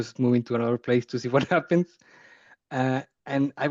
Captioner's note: chuckling